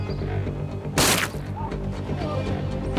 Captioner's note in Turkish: Gerilim müziği; Silah sesi